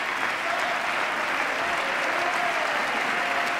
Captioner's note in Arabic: تصفيق